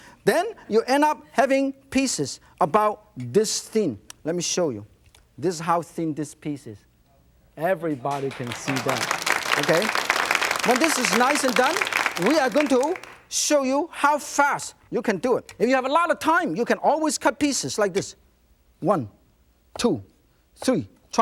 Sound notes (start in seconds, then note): 8.0 audience clapping